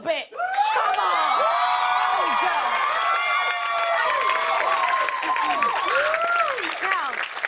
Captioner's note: cheers and applause